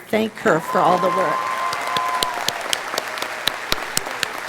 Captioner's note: audience cheering